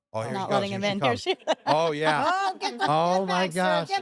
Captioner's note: laugh